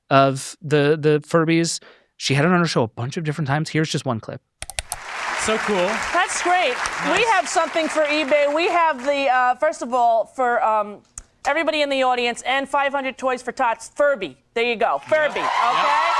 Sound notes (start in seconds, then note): 4.6 button clicks; 5.0 audience applauding